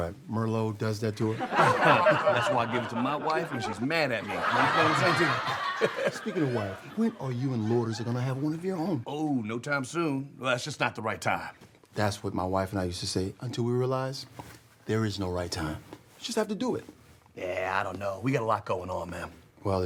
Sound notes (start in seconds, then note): 5.4 audience laughs